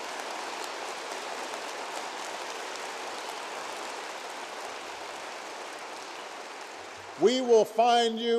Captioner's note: applause